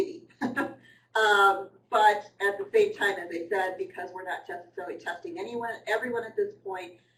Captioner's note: laughter